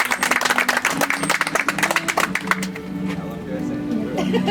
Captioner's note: audience applauds